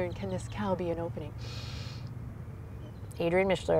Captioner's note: takes deep breath